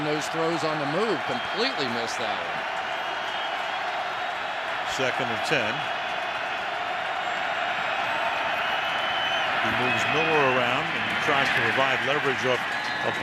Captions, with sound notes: there, making those throws on the move. Completely missed that one. Second and 10. [crowd cheering] He moves Miller around and tries to provide leverage